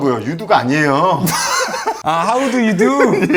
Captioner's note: haha